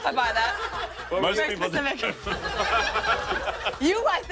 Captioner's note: laughter